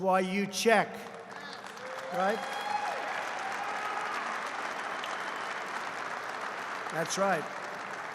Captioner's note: applause